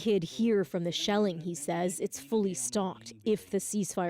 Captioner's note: speaking alternate language